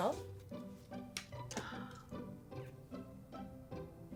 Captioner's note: card clatters; light upbeat music continues